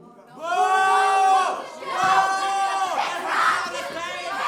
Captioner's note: crowd boos